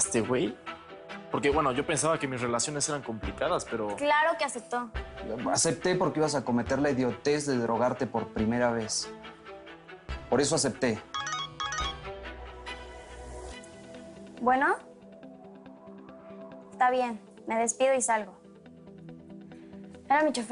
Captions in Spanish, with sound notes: - ¿Y TU ACEPTASTE, GUEY? PORQUE, BUENO, YO PENSABA QUE MIS RELACIONES ERAN COMPLICADAS, PERO... - CLARO QUE ACEPTO. - ACEPTE PORQUE IBAS A COMETER LA IDIOTEZ DE DROGARTE POR PRIMERA VEZ. POR ESO ACEPTE. [Suena el celular] - ¿BUENO? ESTA BIEN. ME DESPIDO Y SALGO.